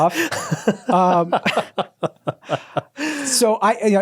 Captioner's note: laughing